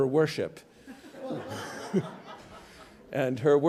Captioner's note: audience laughs gently